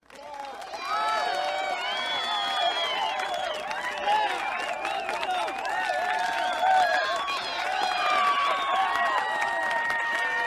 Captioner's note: cheers and applause